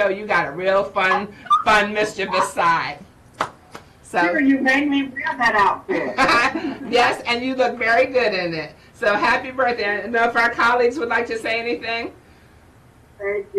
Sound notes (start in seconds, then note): 5.9 chuckles